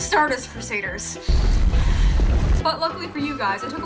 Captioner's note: seething